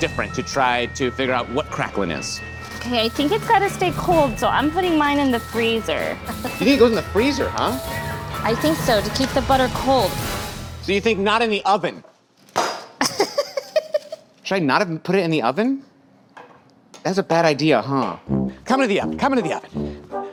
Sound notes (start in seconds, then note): 11.7 utensils clatter; 13.0 laughs